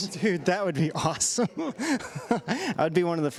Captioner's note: laughs